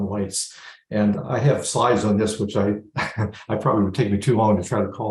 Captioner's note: laughs